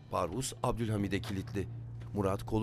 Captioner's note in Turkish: Kapı kapanma sesi; Müzik - Gerilim